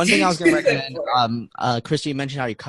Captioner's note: laughing